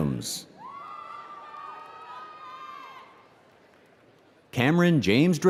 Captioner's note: audience cheering